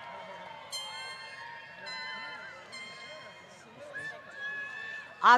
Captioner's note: applause